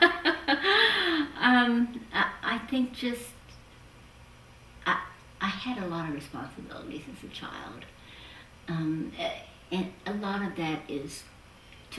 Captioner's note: laughs